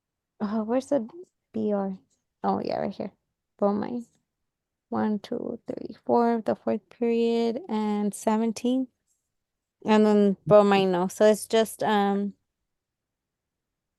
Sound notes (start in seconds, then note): none